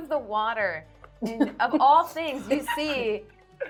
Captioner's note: laughing